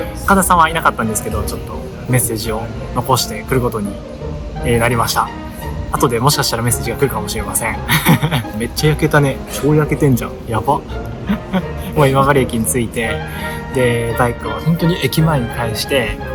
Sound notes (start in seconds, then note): 11.0 laughs